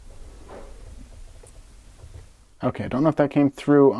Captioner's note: tiny electrical sound